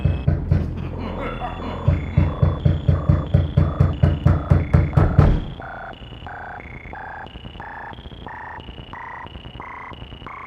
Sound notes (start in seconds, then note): 0.0 The Mold laughing; 1.2 knocking on door